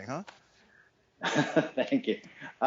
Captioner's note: laughs